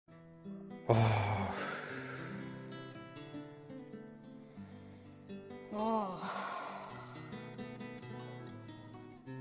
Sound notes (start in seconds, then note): 0.9 nikos sighs; 5.7 stella sighs